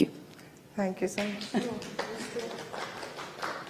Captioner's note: clapping